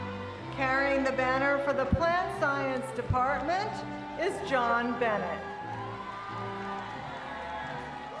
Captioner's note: applause